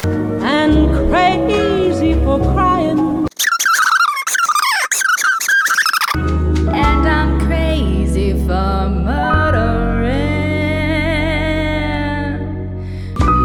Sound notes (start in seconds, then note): 3.3 bawiling